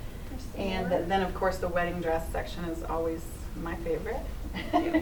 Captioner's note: laughs